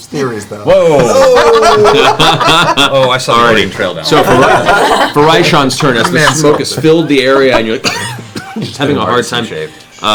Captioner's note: coughing